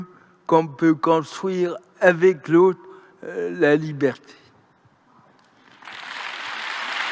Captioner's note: applause